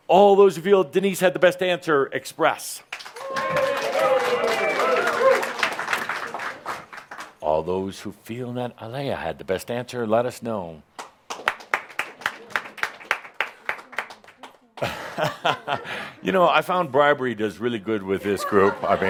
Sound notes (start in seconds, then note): 2.8 some applause; 11.0 only a couple of claps